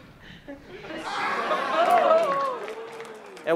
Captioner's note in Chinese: 群眾起哄